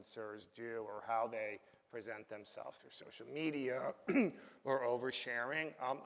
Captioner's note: coughs